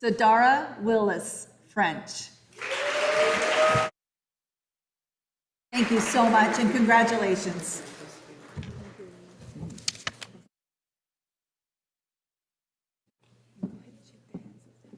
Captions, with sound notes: Sadara Willis, French. (audience applauding) Thank you so much and congratulations.